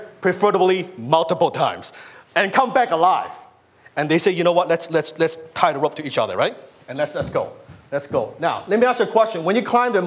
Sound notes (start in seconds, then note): none